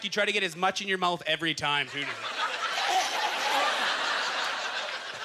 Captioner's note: audience laughter